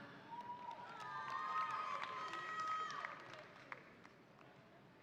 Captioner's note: audience applauding